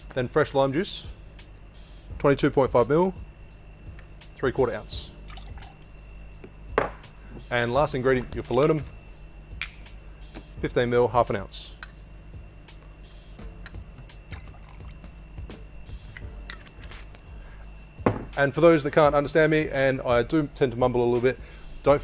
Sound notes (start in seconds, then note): 5.2 juice pours; 16.5 lid twists